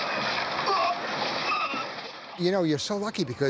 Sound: groaning

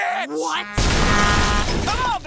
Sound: horn honking

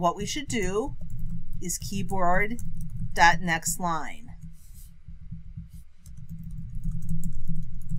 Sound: typing

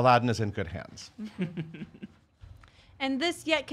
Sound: laughing

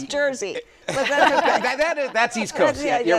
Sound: laughter

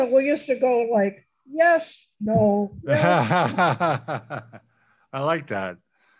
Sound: laughs

